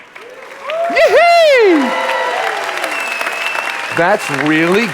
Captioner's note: audience applauding